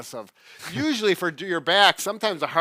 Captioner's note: laughs